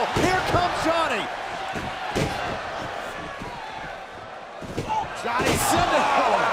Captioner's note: crowd cheering